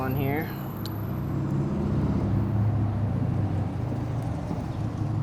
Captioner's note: motorcycles passing